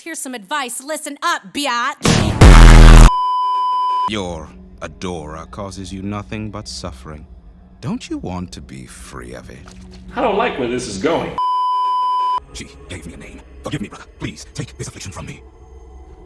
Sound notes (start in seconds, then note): 2.4 beeeeeeeeeeeep; 11.4 beeeeeeeeeeeep